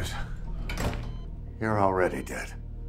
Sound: door shuts

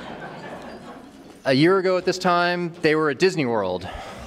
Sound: laughter

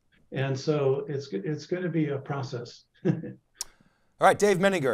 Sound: laughs

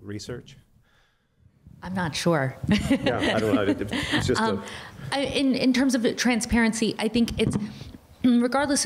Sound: laughter

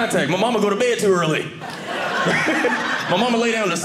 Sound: audience laughing

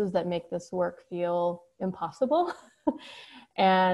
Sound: chuckles

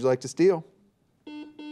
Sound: buzzer beeps

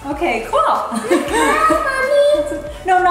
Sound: speaker 1 giggles

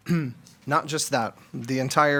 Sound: clears throat

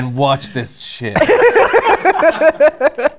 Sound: laughter

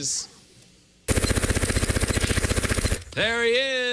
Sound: makes machine gun sounds

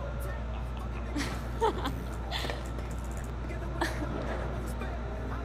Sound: Ashley laughs

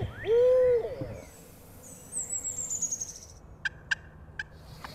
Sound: dogs barking and whining

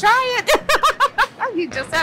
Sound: laughs

